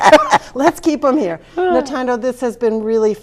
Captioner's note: laughs